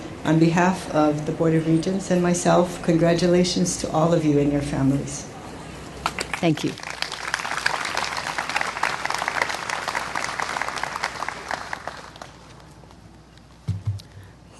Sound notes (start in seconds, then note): 6.0 clapping